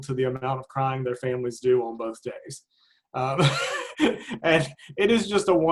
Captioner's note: laughs